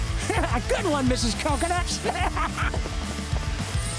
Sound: giggling; laughing

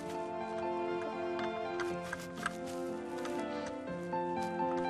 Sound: snipping

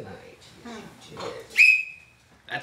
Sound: whistle shrills

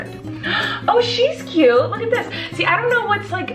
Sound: gasps

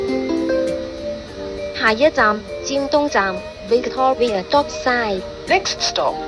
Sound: Cantonese

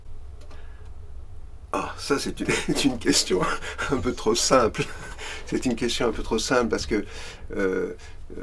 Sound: laughs

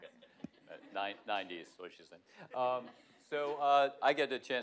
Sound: laughter

